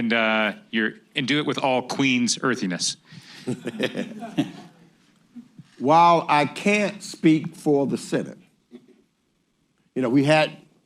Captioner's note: laughter